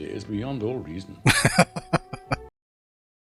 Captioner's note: laughing